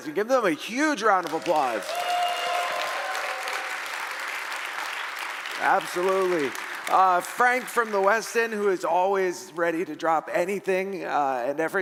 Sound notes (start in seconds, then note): 1.2 audience cheering